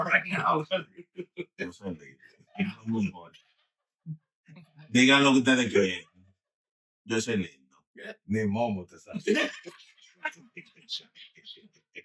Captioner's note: laughing; speaking In Foreign Language